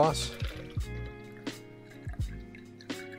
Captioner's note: pouring